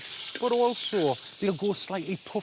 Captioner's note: sizzling